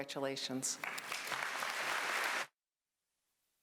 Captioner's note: applause